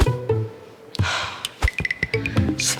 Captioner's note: sighs